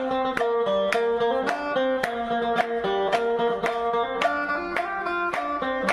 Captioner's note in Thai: ปรบมือ